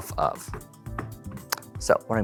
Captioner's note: deck tapping